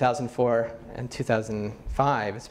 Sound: none

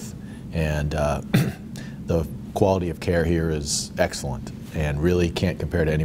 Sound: cough

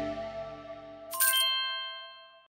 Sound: coin power up sfx

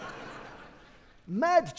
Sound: audience laughing

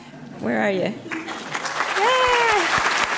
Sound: audience clapping; cheers

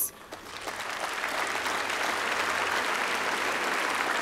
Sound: applause

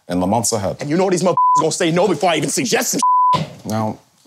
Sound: beep

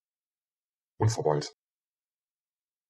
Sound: fast Pronunciation

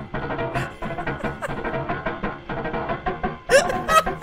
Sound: laughs weakly; strained laughter

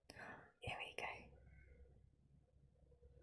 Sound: whispers

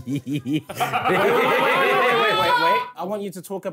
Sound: laughing

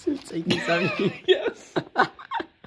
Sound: laughs

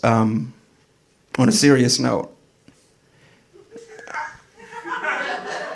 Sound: audience laughing

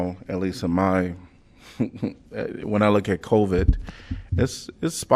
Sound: laughter

